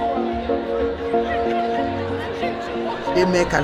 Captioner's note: laughing